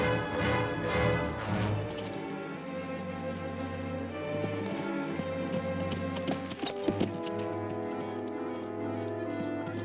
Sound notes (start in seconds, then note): 2.2 suspenseful ominous music; 4.8 hooves pounding; 4.8 suspenseful ominous music; 9.6 hooves pounding; 9.6 suspenseful ominous music